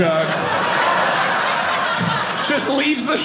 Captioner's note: audience laughing